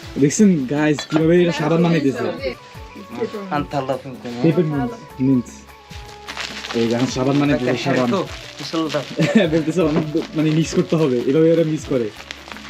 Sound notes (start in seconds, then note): 3.0 foreign language